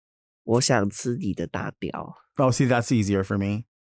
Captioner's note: Nymphia speaking in a foreign language